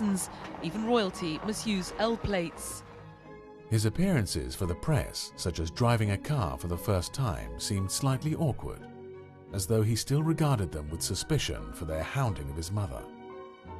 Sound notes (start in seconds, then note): 3.0 voiceover